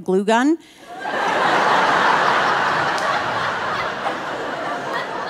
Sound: audience laughing

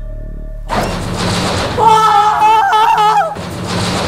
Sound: crassssh!

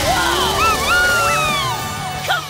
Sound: meowing

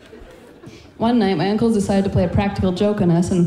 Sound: laughing

